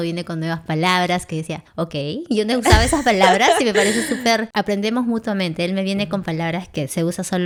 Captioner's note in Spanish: risas